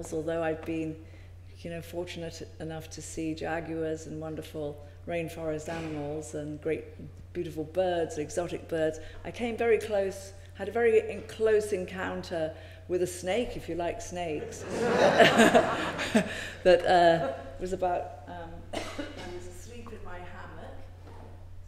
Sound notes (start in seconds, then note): 14.6 laughing